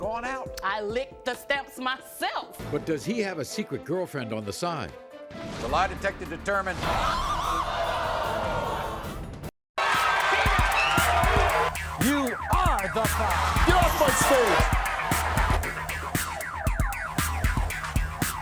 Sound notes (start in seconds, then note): 6.6 audience gasping; 6.6 yelling